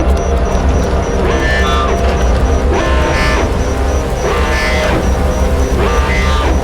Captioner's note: alarm blares; suspenseful music